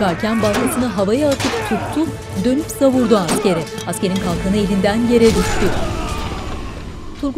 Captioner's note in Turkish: Dövüş sesleri